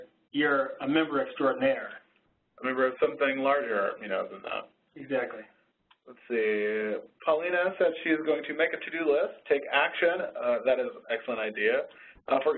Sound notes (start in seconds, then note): 2.7 voiceover